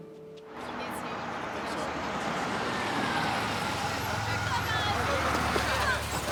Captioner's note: indistinct overlapping chatter